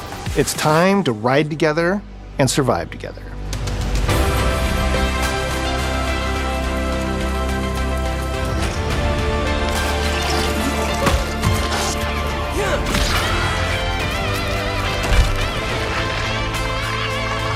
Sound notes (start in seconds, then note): 3.6 inspirational music; 9.4 chittering roars; 14.9 electric guitar